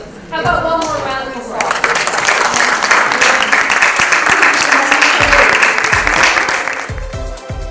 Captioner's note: applause